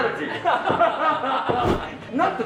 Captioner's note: giggling